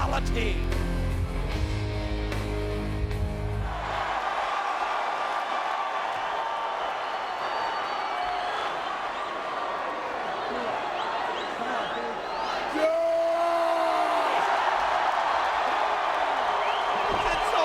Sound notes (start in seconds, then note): 6.5 applause